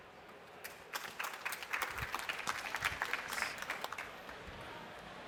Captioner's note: applause